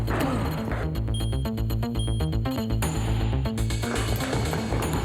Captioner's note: elevator beeps